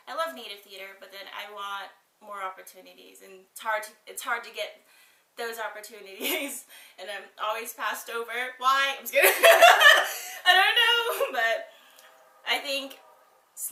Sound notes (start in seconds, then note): 9.2 both laughs